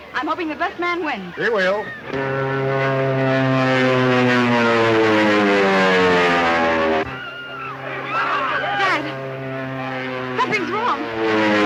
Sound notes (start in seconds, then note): 2.3 airplane buzzing; 7.4 crowd screaming